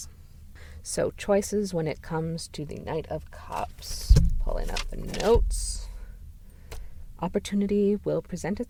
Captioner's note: pages turning